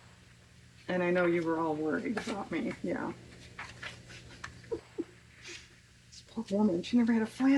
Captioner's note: laughs